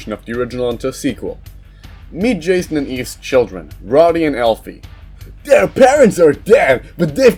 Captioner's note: nerdy voice